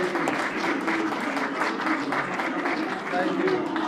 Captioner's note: applause